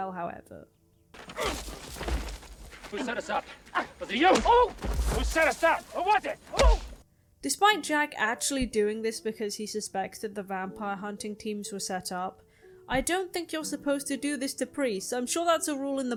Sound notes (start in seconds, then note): 4.3 Guiteau yelps; 6.5 yelps